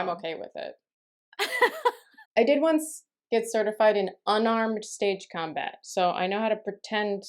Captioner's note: laughter